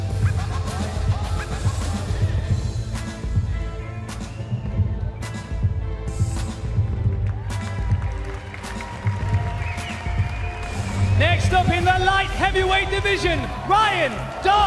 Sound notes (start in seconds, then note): 0.9 applause